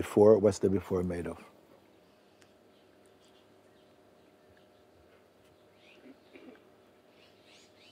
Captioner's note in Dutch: grinnikt